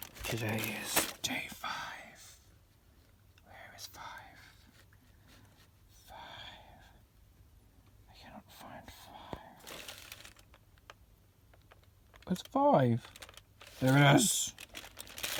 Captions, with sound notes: Today is DAY 5. *whispers* Where is 5...5.... *whispers* I cannot find 5... Where's 5? There it is!